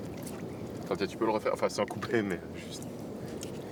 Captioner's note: speaking French